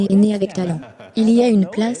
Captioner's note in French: rires